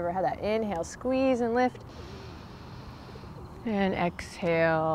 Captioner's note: takes deep breath